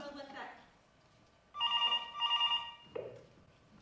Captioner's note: phone ring